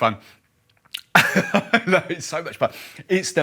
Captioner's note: laughs